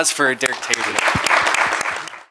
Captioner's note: applause